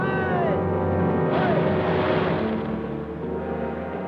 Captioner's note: Japanese soldiers chattering; soldier yells; deep somber music